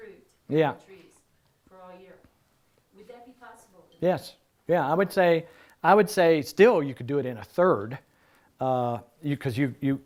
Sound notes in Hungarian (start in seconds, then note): none